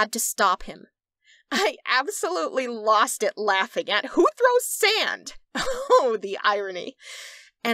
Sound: laughter

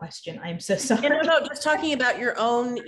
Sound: laughs

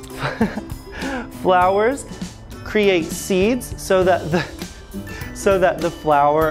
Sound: laughs

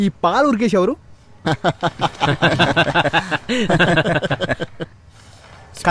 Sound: laughs

